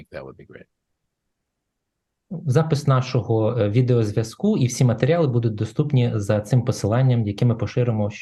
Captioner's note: foreign Language